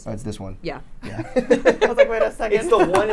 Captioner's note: laughs